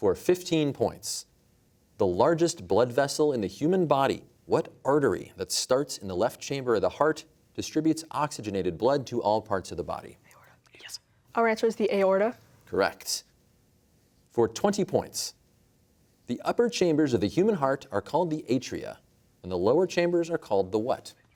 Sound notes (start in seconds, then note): 10.2 whispering